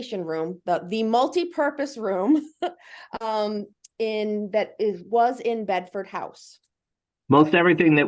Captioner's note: laugh